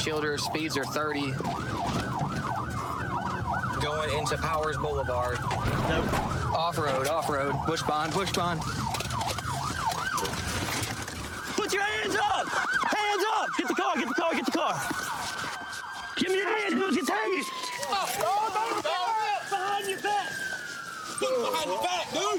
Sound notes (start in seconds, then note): 18.5 yells